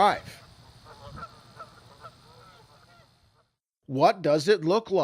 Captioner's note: canada goose sounds